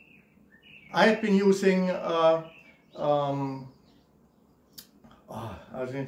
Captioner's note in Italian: Esitando